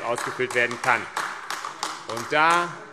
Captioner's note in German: Beifall AfD